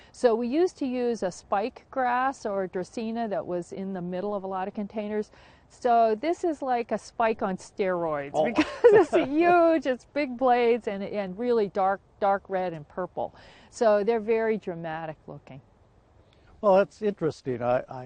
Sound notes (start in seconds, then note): 8.3 both laugh